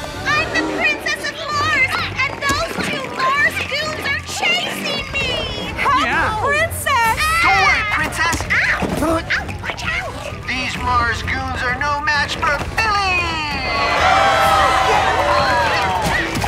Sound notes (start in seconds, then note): 13.5 all cheering